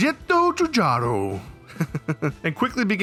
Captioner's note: laughing